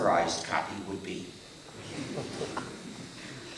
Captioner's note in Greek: Γέλια στο ακροατήριο